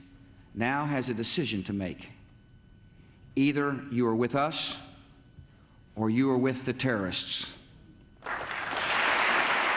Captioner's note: applause